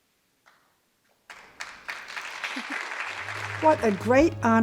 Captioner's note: audience applause